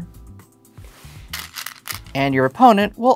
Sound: stones rattling

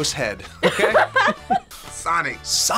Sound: both laugh

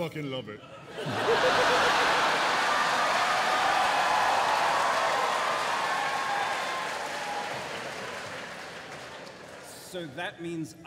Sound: laughter and cheering

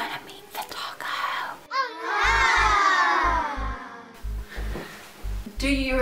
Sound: awww sound effect

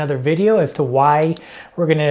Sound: mouse clicking

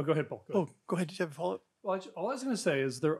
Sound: murmurs

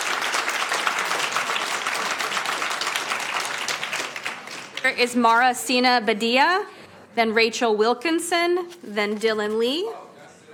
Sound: applauding

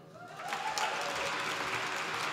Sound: applause

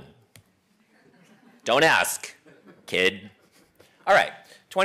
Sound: laugh

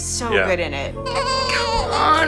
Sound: baby cries

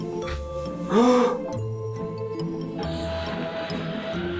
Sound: gasps

